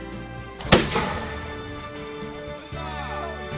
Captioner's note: gun shoots